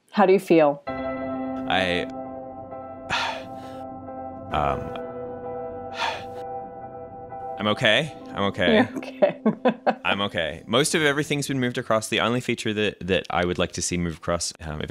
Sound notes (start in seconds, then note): 1.0 sad music playing; 9.2 laughs